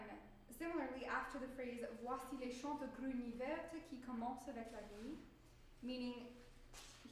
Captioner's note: speaking french